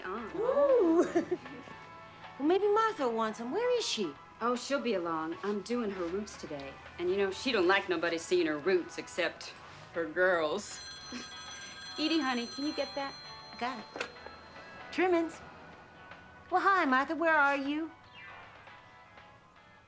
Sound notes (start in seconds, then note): 0.3 laughs; 10.4 phone ringing